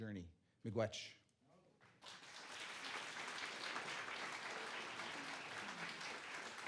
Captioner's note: applause